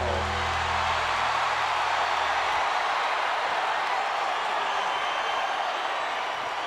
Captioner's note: bell tolls; crowd cheers